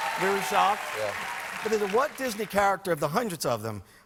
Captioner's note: applause